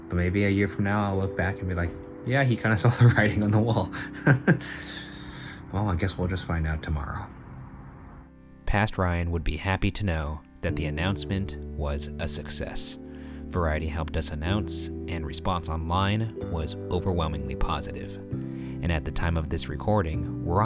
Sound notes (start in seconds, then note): 4.0 laughs